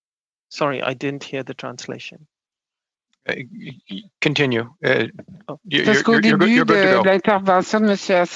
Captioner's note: speaking French